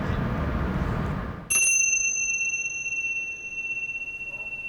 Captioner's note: bell chimes